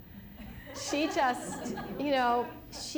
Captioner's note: laughter